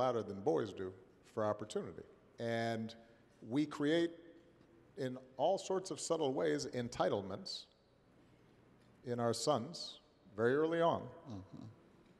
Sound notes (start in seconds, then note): none